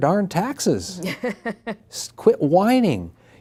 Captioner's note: laughing